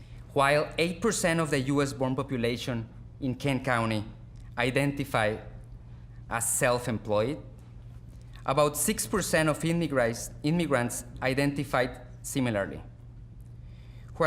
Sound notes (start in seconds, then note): none